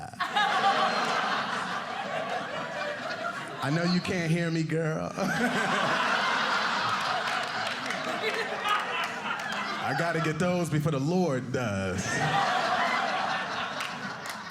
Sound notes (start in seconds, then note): 0.0 audience laughing